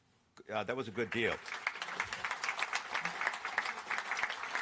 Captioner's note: applause